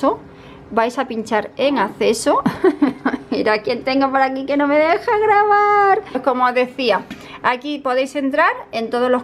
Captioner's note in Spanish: risas